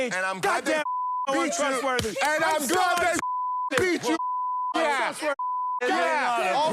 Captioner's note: beep